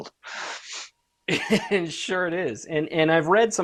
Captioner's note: laughs